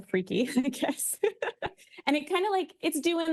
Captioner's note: laughs